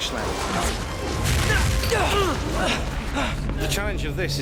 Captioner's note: grunting